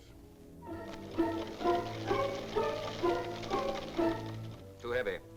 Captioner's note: tense music; clicking sound